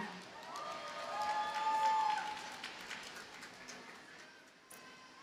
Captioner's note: audience cheers and applauds